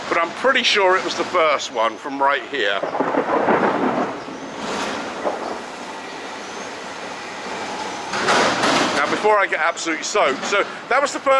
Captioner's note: thunder roars